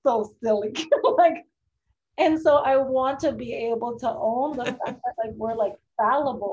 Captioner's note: laughs